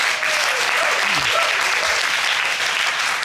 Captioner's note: audience applauding